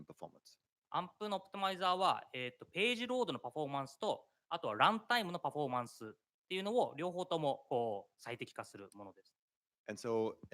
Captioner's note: speaking japanese